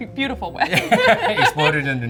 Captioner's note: both laugh